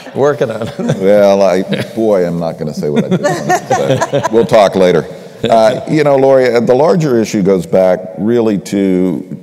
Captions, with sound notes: >> Working on it. >> Well I, boy I'm not going to say what I did want to say [laughter], we'll talk later. You know Lori, the larger issue goes back really to,